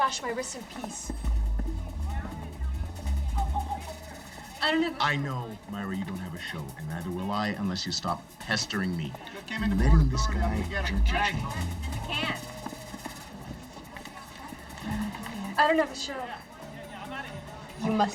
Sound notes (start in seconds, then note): 0.9 rapid music; 9.5 people chattering